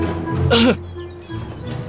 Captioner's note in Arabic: سعال